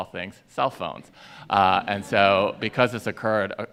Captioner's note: audience laughing